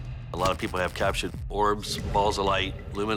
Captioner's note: camera flash